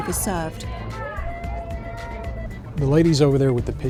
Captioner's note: loud voices and cheering